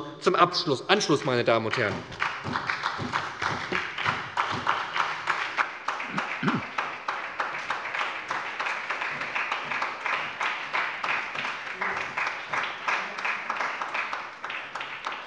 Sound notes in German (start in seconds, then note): 2.5 Beifall bei der SPD